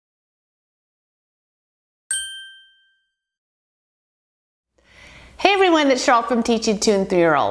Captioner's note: ding